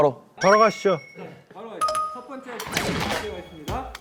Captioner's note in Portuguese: arranque